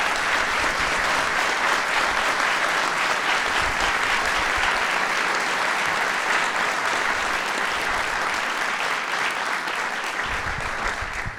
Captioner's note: applause